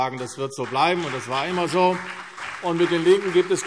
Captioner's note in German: Beifall CDU und BÜNDNIS 90/DIE GRÜNEN